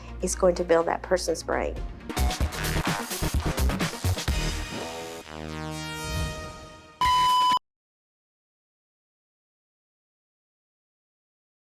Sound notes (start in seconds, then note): 2.0 upbeat music; 7.0 machine beeps